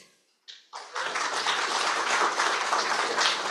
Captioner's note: applause